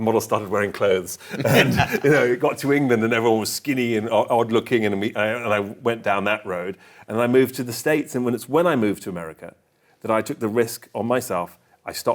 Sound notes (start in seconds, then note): 1.2 both laugh